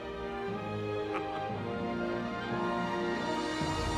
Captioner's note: chuckling